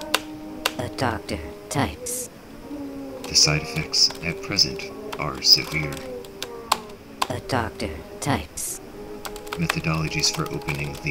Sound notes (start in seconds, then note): 0.0 click-clack; 1.2 the Buzzing; 5.3 click-clack; 7.6 the Buzzing